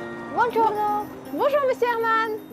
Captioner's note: in Italian